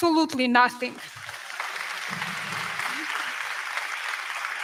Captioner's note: crowd clapping